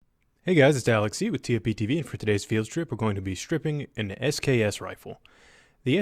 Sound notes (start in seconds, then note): 0.1 voiceover